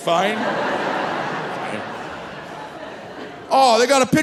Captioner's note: audience laughing